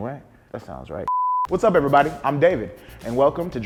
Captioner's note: beeping sound